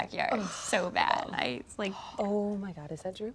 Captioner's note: Ashley groans